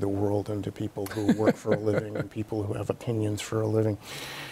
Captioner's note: Bob laughs